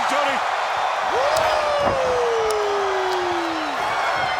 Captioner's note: audience cheering